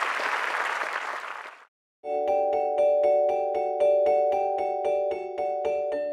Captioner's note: applause